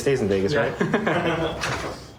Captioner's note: laughter